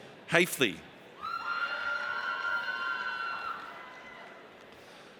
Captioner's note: audience cheers